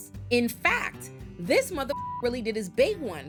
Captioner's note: beep